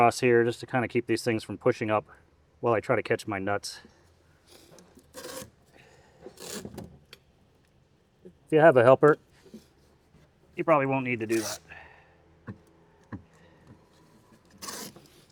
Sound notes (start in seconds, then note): 4.3 drilling; 14.6 drilling